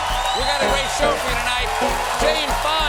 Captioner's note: band playing; cheers and applause